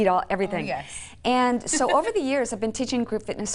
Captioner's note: laughs